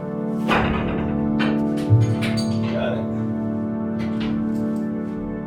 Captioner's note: equipment clattering